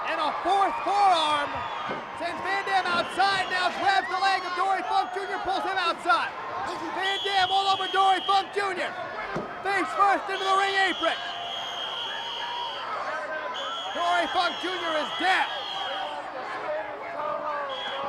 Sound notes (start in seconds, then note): 10.4 whistle trills